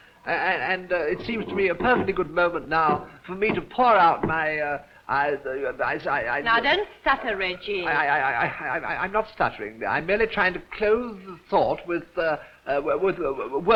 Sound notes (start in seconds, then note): 5.5 stutters; 8.1 stuttering